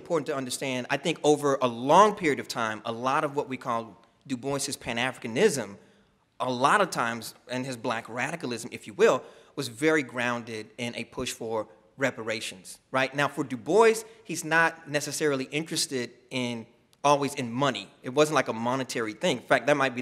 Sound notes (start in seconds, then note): none